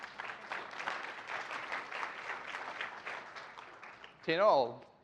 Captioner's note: applause